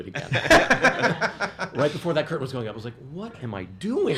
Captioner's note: laughs